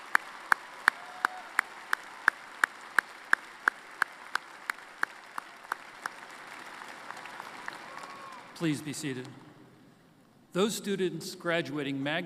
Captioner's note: applause